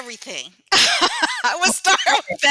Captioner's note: laughter